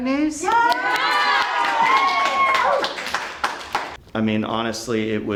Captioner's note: children cheering